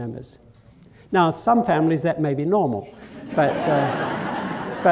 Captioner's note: laughter